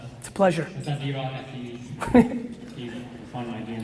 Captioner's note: murmurs; Gary chuckles; murmurs